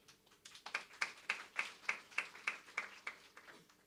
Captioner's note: audience applauds